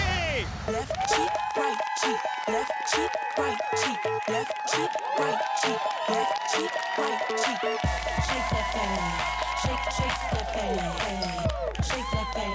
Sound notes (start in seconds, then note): 1.9 audience cheering